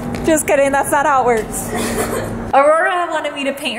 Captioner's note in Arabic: ضحكات خافتة